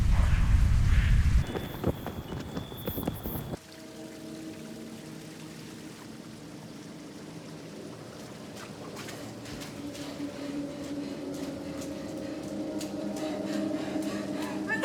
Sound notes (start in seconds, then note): 1.6 rapids footsteps; 4.1 water splashes; 8.7 ominous music; 10.1 Abby pants